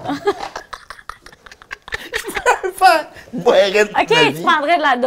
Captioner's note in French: rires